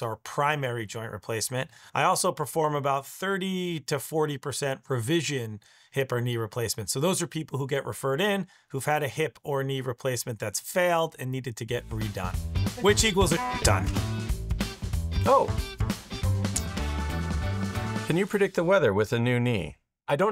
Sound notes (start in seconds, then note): 12.7 horn honks; 16.2 lively music